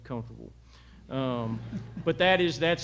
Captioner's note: laughter